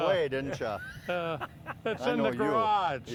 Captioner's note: laughing